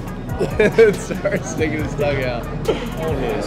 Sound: laughing

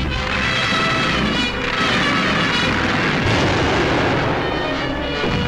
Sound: explosions and music

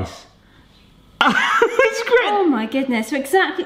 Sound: chuckles

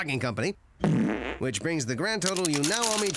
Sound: passes gas

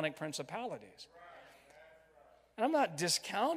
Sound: crowd

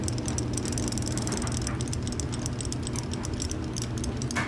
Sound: toy clicking

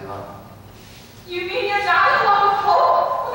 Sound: none

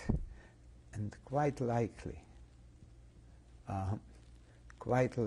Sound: pauses for 3 seconds

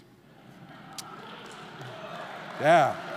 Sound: audience cheering; audience laughing

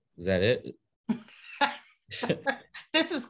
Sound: laughing

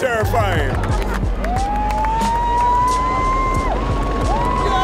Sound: cheering

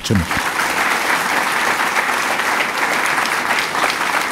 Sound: applause

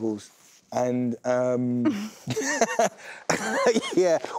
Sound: laughs

